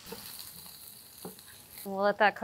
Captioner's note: pork sizzling